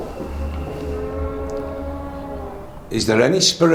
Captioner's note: mysterious groaning